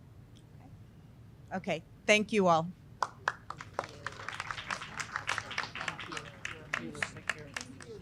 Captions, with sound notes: okay thank you all [Applause]